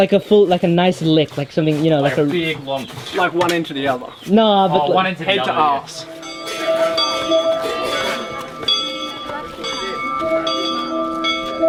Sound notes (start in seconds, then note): 4.7 people chatter; 4.9 bells chiming; 8.8 people chatter